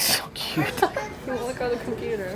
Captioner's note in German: Lacht